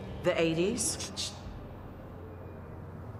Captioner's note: shushes